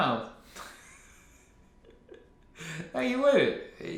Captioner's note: laughs